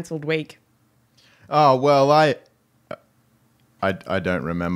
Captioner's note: voice changes